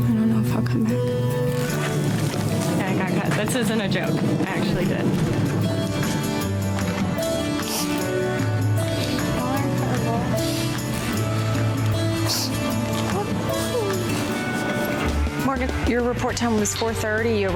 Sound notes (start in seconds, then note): 5.9 mellow music; 12.0 girls crying